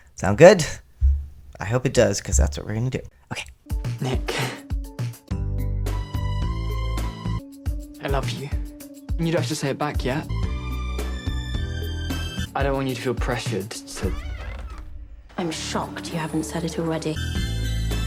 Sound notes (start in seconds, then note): 13.9 door squeak